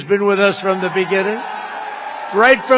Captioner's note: applause